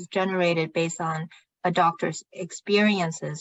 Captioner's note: speaking chinese